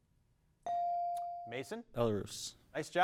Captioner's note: bell dings